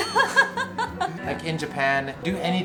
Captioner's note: laughs